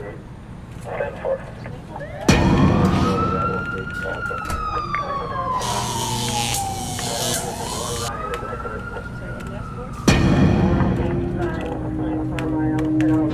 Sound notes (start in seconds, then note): 2.0 big bang sound; 3.2 siren wails; 5.6 electricity crackles; 9.9 big bang sound